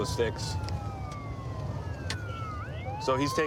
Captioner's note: sirens wailing